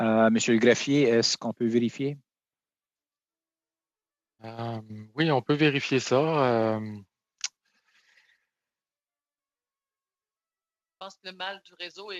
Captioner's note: speaking French